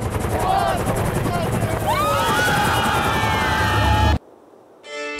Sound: all scream, shout

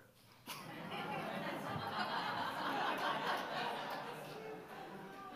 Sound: audience laughing

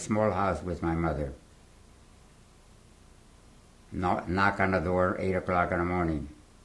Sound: pauses for 3 seconds

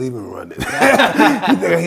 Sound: both laughing

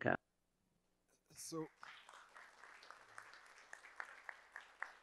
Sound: audience applauding

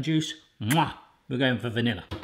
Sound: kiss

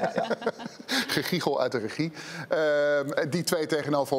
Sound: giggles from the control room

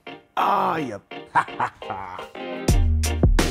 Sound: laughing; upbeat music

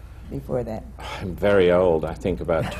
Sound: sighs

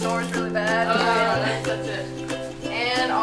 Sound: groaning

